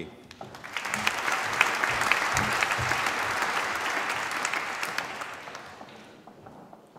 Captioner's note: applause